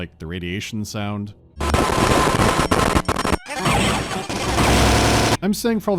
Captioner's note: unrelenting earrape